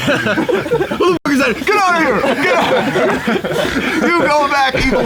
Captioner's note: all laughing